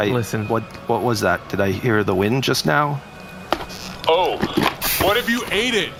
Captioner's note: takes off helmet and yells